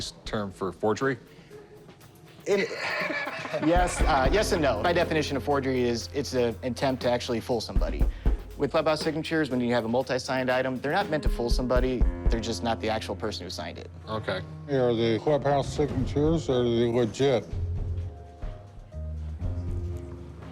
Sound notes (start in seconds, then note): 3.4 chuckling